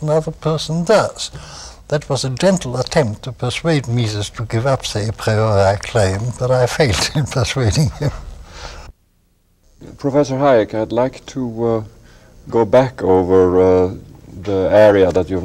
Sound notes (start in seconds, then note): 7.6 laughter